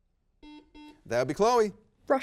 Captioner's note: buzzer beeps